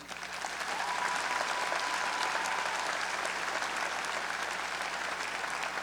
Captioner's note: graduates and audience applauding